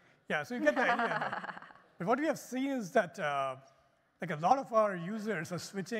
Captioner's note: laughter